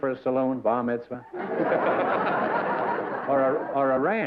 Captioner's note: laughter